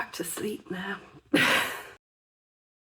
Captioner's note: laughing